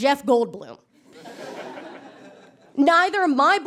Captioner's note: audience chuckles